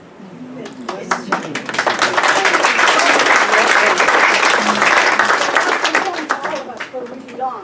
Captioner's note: clapping